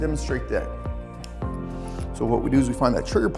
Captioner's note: switch clicks